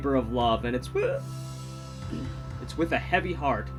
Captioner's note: voice breaks